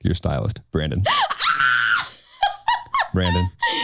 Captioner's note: laughing